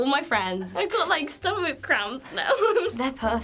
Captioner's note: laughs